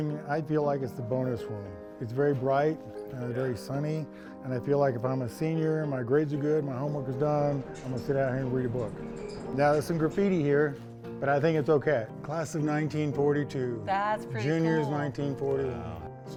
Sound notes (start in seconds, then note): none